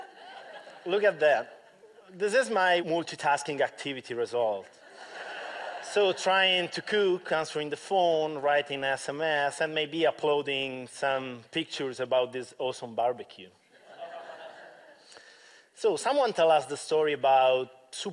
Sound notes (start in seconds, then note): 8.4 laughter